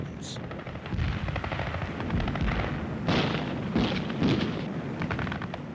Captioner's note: gunfire